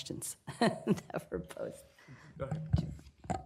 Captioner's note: laughter